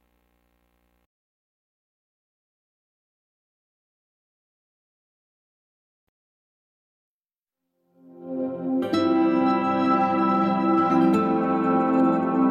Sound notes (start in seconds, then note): 0.0 silence